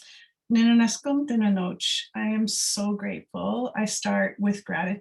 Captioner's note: non-english speech